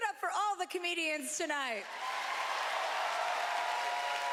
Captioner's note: cheering